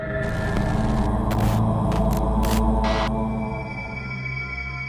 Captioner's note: deep humming